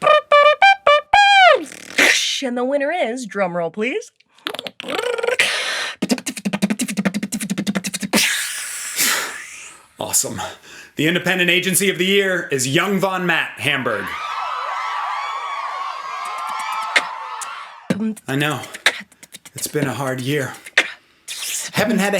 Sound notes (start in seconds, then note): 0.0 beatboxes; 4.4 beatboxes; 13.8 comic cheering; 17.8 beatboxing